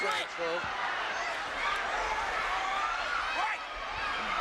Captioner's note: audience cheering